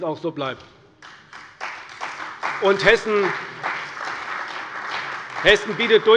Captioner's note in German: Beifall bei der CDU